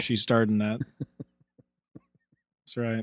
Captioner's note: chuckling